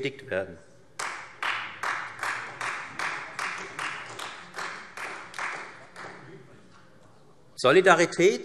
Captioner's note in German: Beifall Freie Demokraten